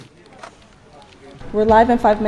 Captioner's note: people chattering